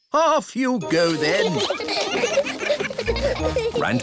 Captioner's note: giggling